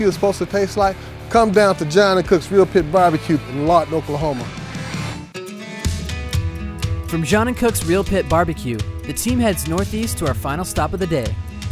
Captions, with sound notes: is suppose to taste like, come down to John & Cook's Real Pit BBQ in Lawton, Oklahoma. (upbeat guitar music) - [Voiceover] From John & Cook's Real Pit BBQ, the team heads northeast to our final stop of the day,